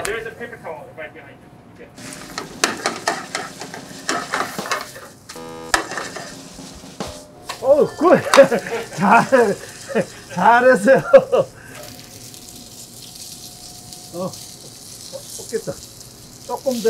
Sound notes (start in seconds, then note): 5.3 buzzer beeping; 10.4 speaking in Korean